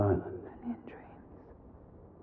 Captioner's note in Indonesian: berbisik